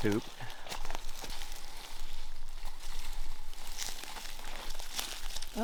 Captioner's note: footsteps crunching